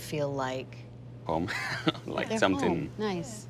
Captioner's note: laughs